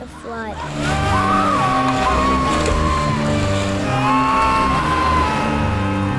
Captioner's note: yelling and screaming